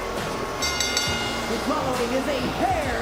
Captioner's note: bell rings; crowd boos